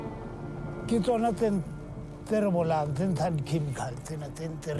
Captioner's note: speaking in foreign language